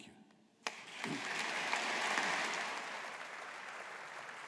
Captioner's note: audience applauding